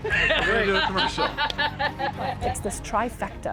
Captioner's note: laughs